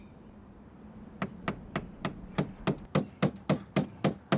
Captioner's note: hammer thudding